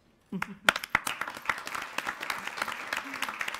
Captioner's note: applauding